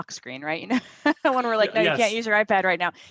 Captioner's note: laughs